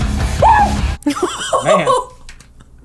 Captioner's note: laughing